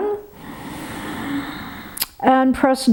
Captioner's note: inhales sharply